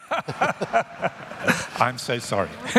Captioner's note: laughter